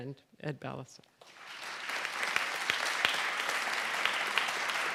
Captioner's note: applause